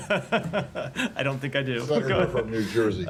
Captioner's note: laughter